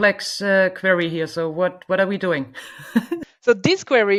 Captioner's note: chuckles